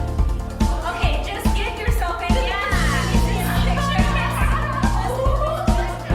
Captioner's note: speaks softly